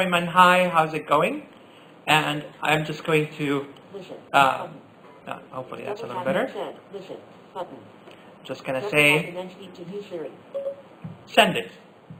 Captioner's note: Siri beep